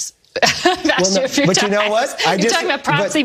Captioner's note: laugh